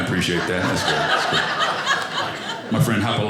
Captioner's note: audience laughing